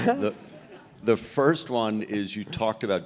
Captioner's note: laugh